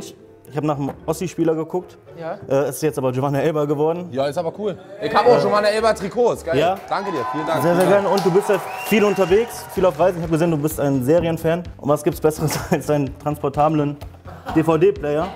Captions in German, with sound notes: Ich hab noch für Finch, ich hab nach 'nem Ossi-Spieler geguckt. Es ist Giovane Élber geworden. - Cool. Danke dir. Vielen Dank. (Jubel) Du bist ja viel unterwegs, auf Reisen. ich hab gesehen, du bist ein Serienfan. Was gibt's besseres, als 'nen transportablen DVD-Player?